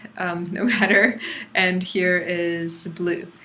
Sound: laugh

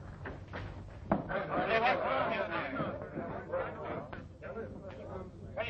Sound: chatter

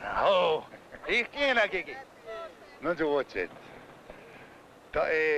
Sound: speaking in foreign language

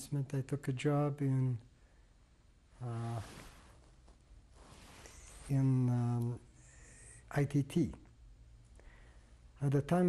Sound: pauses for 3 seconds

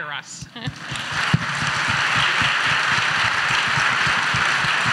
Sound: audience applauds

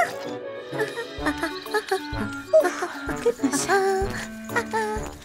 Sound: hums; giggles excitedly

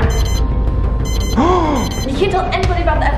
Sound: beeping

